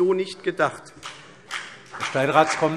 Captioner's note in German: Beifall CDU und vereinzelt BÜNDNIS 90/DIE GRÜNEN